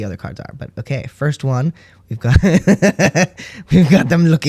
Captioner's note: laugh